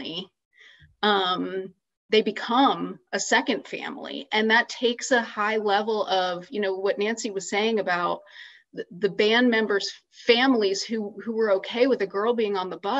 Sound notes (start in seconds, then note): none